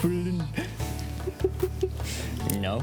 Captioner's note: giggles